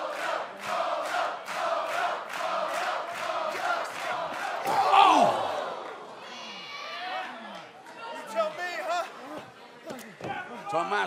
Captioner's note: crowd cheering